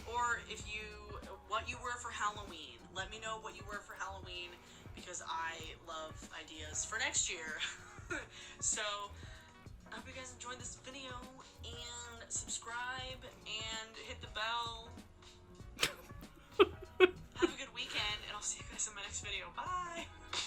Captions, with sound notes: Or if you, what you wear for Halloween. Let me know what you wear for Halloween because I love ideas for next year. So I hope you guys enjoyed this video and subscribe and hit the bell. (laughing) Have a good weekend and I'll see you guys in my next video. Bye.